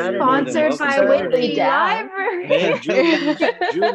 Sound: laughs

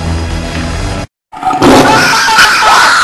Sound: tiger roar; screaming; Big Man screaming

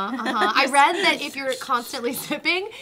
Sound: makes sipping sound

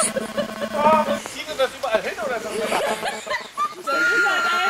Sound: voice drowns in mean laughter

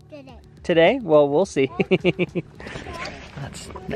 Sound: laughs

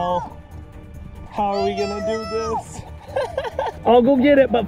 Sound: laughing

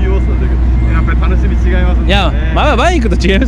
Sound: motorcycles

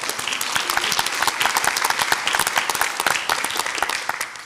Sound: audience applauds

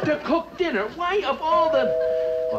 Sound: doorbell

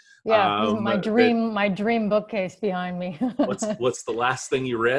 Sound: chuckles

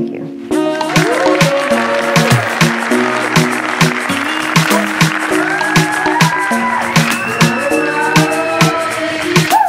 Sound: applause and cheers

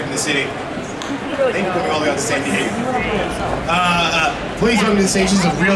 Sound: audience chattering

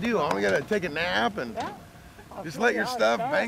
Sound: patting

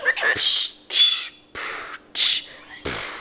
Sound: beatboxes

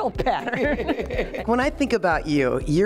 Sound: host laughing

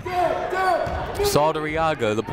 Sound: shouting

